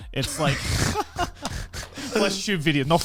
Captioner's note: laughing